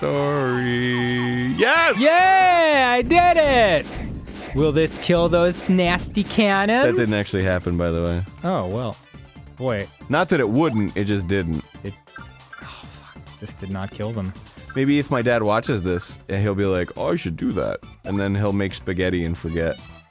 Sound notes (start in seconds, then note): 13.3 muttering